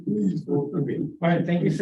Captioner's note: laughter